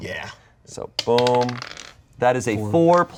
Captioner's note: dice rolling